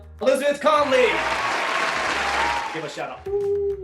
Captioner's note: applauding